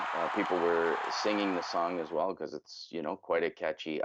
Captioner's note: cheers and Applause